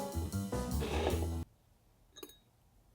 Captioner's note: bowl sliding